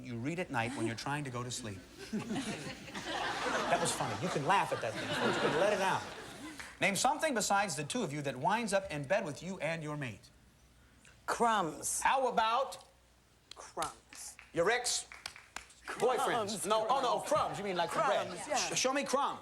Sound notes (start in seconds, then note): 2.0 light laughter; 5.4 more laughter